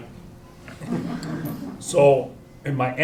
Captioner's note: chuckles